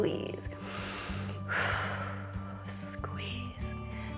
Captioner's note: inhales and exhales